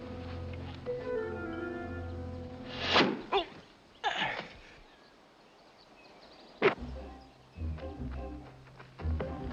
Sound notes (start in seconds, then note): 2.5 groans; 2.7 arrow whizzes